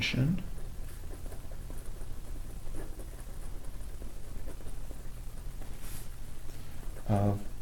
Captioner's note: writing Sounds